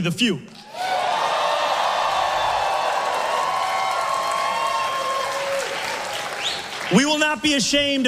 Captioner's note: massive crowd cheer